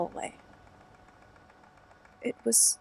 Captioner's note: fx: air conditioning noise stops